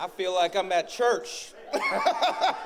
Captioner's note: laughs